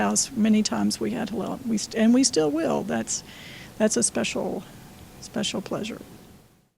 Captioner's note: none